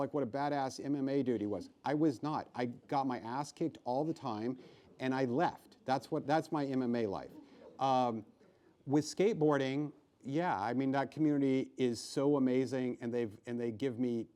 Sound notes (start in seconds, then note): 7.1 laughing